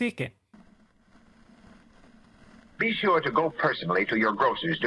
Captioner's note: old radio voice